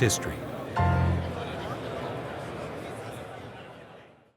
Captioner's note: attendees chattering